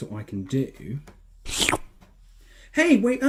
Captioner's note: shlurp